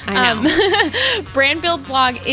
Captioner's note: laughs